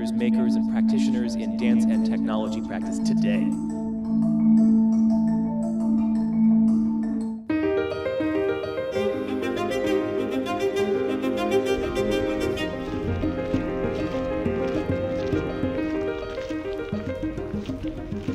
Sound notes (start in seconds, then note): 8.0 buoyant music; 13.5 footsteps crunching